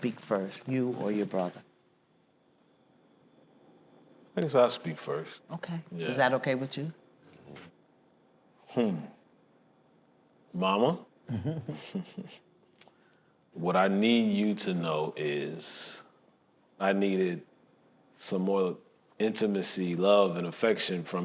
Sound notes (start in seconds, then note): 11.3 chuckles